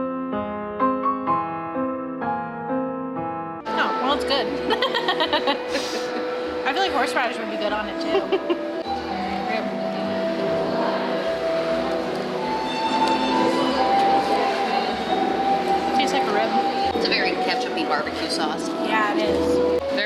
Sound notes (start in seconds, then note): 0.1 sad music; 4.6 laughs